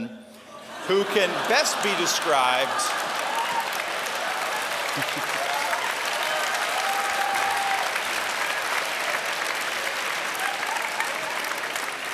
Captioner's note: applause/laughter